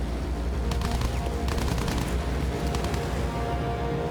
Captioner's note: gunfire